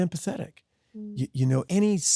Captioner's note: Sydney hums